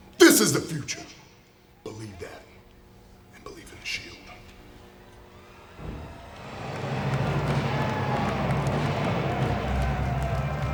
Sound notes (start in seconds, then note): 5.0 audience cheers; 6.2 ceremonial music